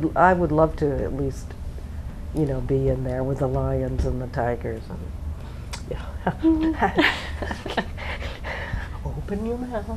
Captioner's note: laughing